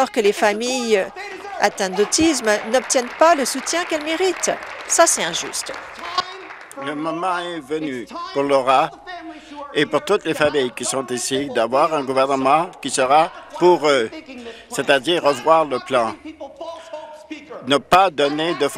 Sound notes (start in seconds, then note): 7.7 applause